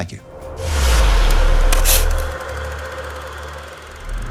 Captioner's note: air swooshing